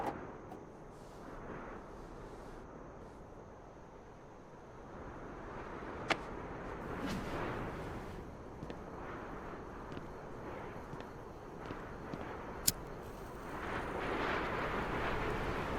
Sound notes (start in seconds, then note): 0.1 microphone clacks; 6.1 hands slap; 8.6 footsteps clack; 8.6 strong wind blows; 12.6 lighter flicks